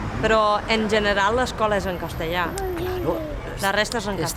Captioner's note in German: auf Spanisch